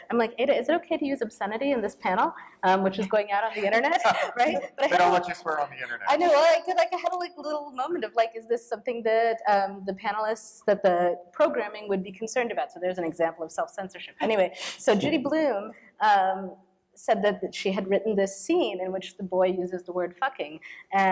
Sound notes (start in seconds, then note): 3.6 laughter